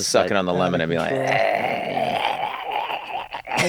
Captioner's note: imitating retching